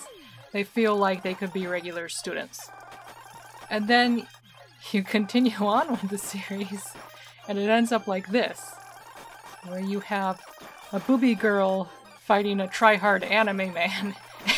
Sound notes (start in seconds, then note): 6.4 laughing; 14.3 laughing